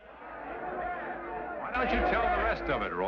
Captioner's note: men shout